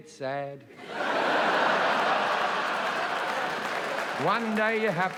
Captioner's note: audience laughing; audience applauding